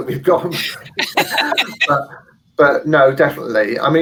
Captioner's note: laughing